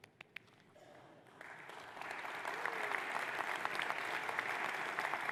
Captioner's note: audience applauds